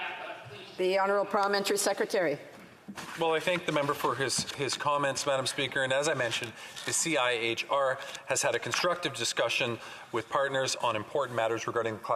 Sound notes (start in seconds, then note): none